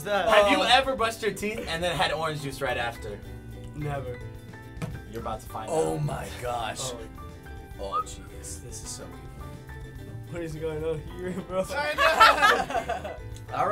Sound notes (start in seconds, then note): 7.8 whistling happily; 11.9 laughter